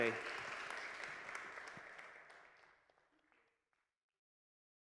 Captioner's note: audience applause